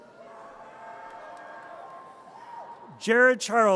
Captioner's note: audience cheers